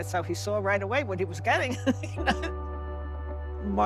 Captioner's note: laughs